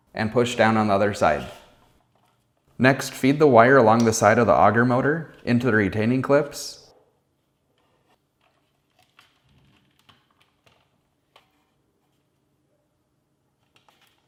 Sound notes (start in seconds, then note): 8.4 plastic rattling